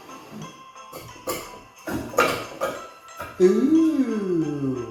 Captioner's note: wood pieces banging